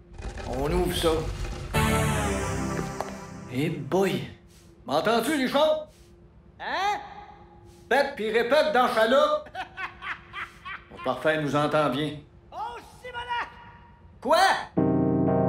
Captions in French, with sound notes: -On ouvre ça. - Boy! -M'entends-tu, Richard? (voix lointaine) Hein? -Pète puis répète dans la c(rires)! Parfait. Il nous entend bien. -Oh! Simonac! -Quoi?